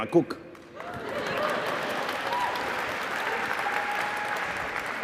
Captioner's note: applause